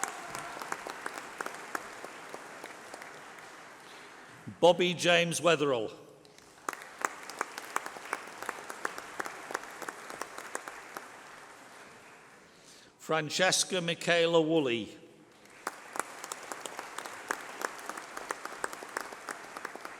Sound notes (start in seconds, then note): 5.8 applause